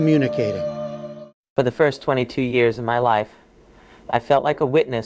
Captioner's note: through A.I. voice